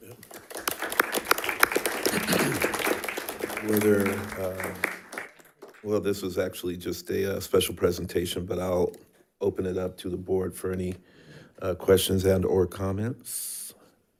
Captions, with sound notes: (audience clapping) - Were there, well, this was actually just a special presentation, but I'll open it up to the board for any questions and/or comments.